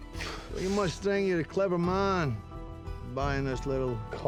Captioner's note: exhales; scottish accent